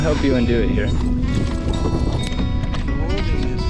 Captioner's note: water splashing / metal clanging